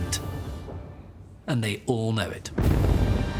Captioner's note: bombs thud